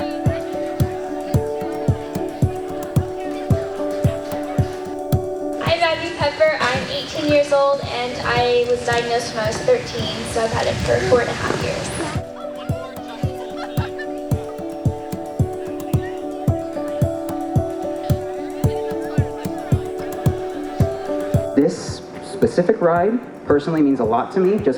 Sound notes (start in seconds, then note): 0.1 upbeat mellow music; 12.5 background chatter; 14.7 upbeat mellow music